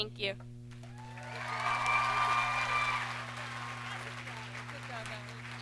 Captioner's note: audience cheers and applauds